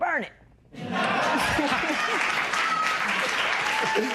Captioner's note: laughter, applause